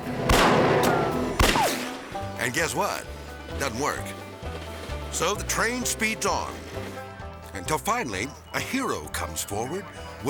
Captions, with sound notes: (dramatic Western music) (gun fires) And guess what, doesn't work. (light banjo music) (train rustling) So the train speeds on until finally, a hero comes forward,